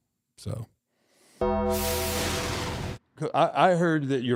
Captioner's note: logo dings; logo whooshing